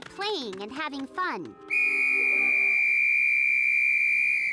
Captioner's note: blowing whistle